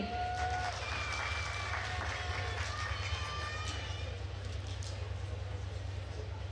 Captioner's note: attendees cheering and applauding